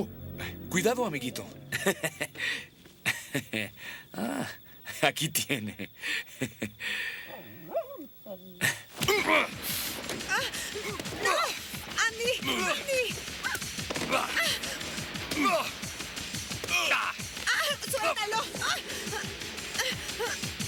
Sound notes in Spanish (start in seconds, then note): 8.8 música dramática; 10.0 Jodie gritando